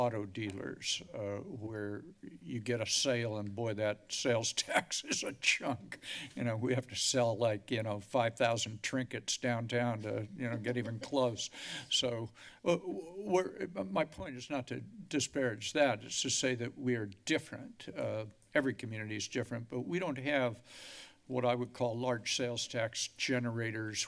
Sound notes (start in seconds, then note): 4.7 laughs; 10.5 laughter